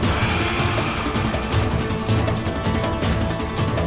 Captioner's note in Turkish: Nefes sesi